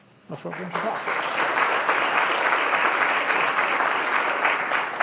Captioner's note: audience applauding